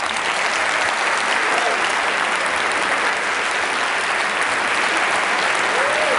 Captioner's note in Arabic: تصفيق